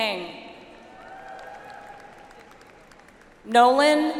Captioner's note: audience applauds